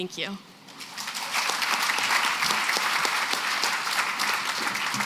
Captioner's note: applause